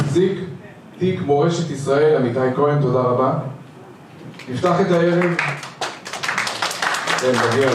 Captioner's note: applause